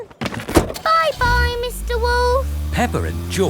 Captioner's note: engine starts